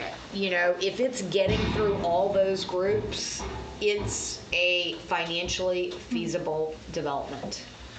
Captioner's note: none